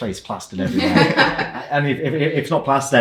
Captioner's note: people laughing